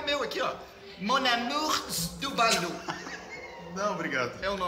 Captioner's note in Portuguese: risos